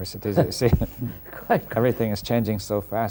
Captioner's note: laughs